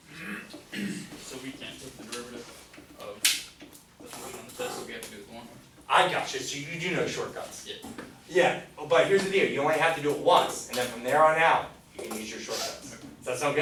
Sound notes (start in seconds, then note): 8.1 voiceover